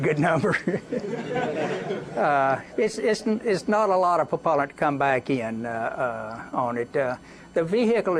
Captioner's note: laughter